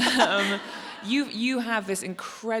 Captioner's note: audience laughs